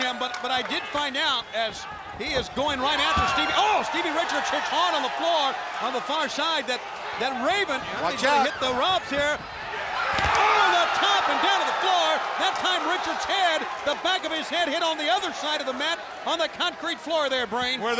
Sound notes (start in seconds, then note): 3.0 body thudding; 11.9 body thudding; 11.9 crowd cheering